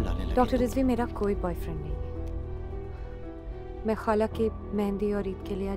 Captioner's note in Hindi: none